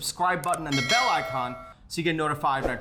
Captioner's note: bell clanging